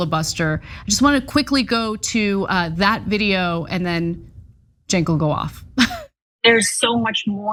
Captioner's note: laugh